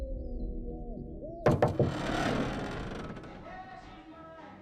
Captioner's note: knuckles rapping; door creaking